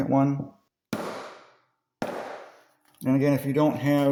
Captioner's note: hammer sound